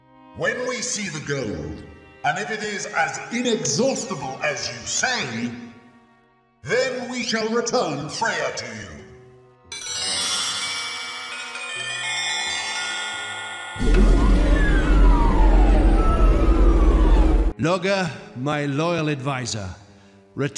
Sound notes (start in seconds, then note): 13.8 roaring of engines